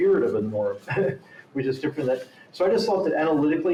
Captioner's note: chuckles